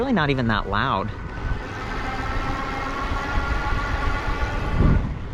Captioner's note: eBike motor revving